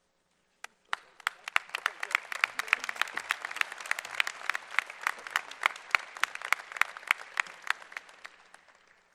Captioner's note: applause